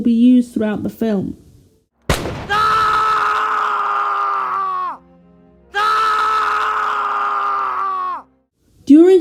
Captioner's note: gunshot and stock scream sound effect